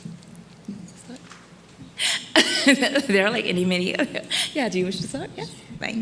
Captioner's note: laughs